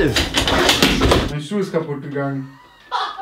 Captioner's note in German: Lachflash